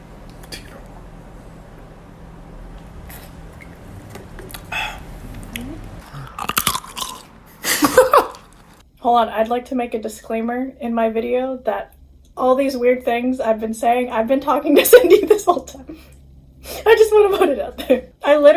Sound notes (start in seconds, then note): 6.3 cRUnch; 7.6 laughs